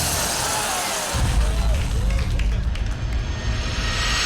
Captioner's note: electricity fizzes, roars; dull boom, whoosh!